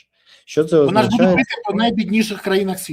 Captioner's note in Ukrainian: сміх